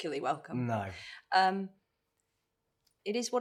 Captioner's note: in normal voice